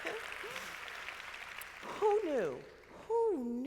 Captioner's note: crowd clapping